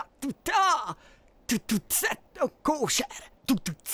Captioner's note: beatboxing